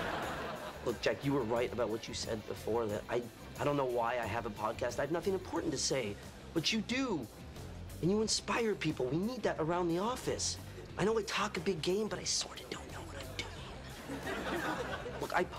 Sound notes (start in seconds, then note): 12.5 whispering